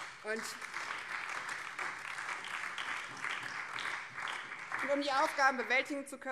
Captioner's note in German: Beifall BÜNDNIS 90/DIE GRÜNEN